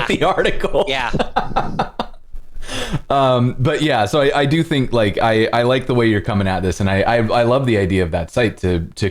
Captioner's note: laughter